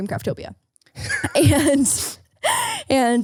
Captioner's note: laughing